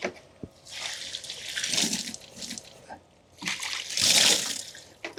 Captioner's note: water splashing